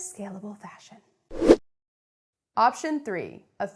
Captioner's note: air whooshing